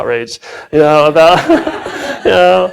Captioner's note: laughs